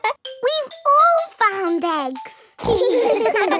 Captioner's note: giggles; snorts; giggling